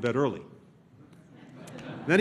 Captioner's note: laughter